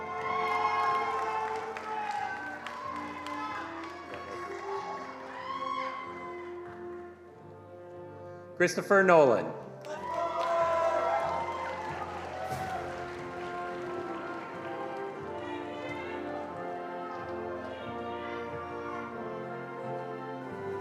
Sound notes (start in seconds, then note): 0.0 attendees applauding; 9.8 attendees applauding